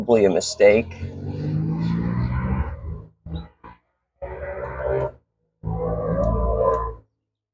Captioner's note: engine noises in the distance